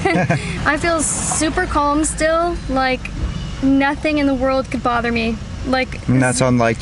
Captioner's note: laughs